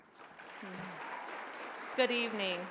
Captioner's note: applause